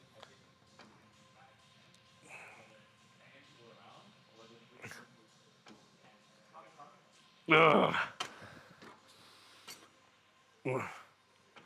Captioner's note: grunting